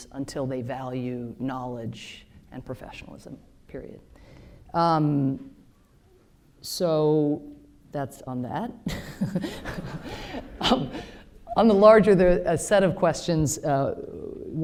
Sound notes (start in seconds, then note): 8.9 laughs